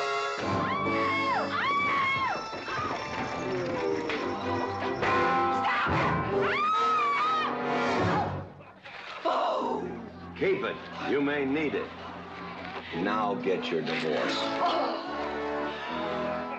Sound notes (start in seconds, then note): 0.6 Katherine screaming & carrying on; 3.4 carriage rattling; 6.4 screaming; 9.2 growling loudly